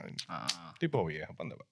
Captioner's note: speaking In Foreign Language